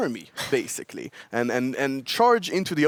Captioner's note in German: kichern